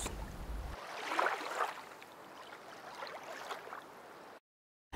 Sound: water sloshing

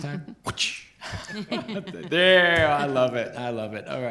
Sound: laughter

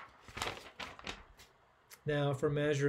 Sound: paper rustles

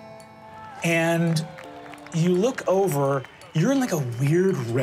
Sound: people clapping distantly

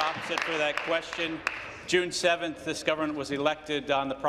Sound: applause

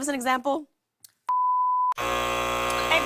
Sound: buzzer

